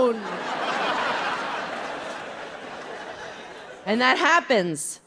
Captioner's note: audience laughing